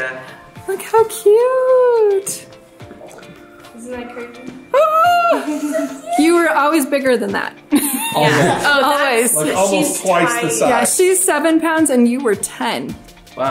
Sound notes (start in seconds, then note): 7.9 laughs